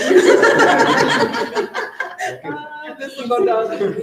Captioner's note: group laughing